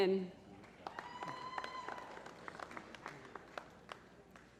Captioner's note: applause